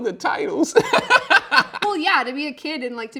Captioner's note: laughs